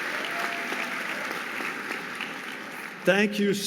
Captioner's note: audience applauding